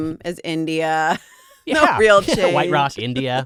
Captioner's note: laughing